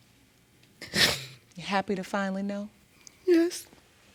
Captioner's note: sobbing